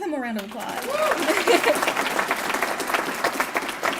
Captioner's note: applause